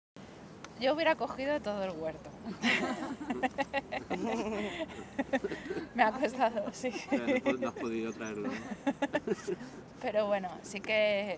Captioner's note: laughs